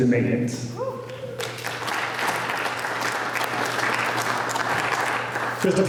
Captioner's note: applause